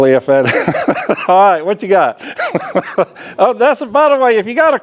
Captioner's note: laughs